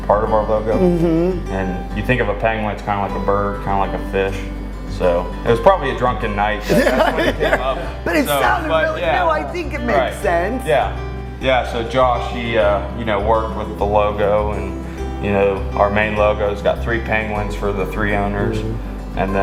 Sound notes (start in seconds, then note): 6.6 laughs